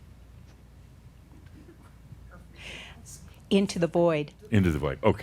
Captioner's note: slight pause